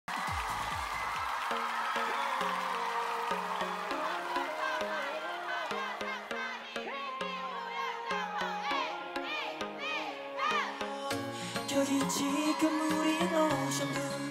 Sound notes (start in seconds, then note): 3.0 fanchant